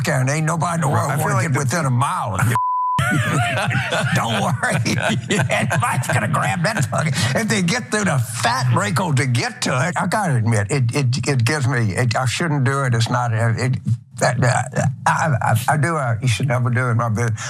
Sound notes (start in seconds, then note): 3.0 laugh